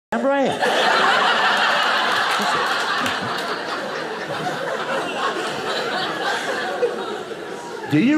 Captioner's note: audience laughing